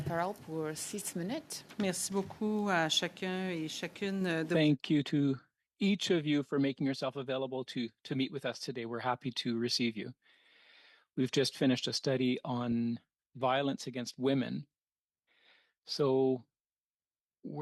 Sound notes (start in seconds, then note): 4.0 speaking French